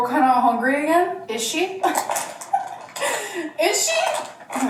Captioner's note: chuckles